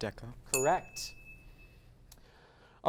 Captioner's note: ding